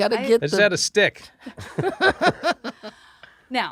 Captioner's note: laughing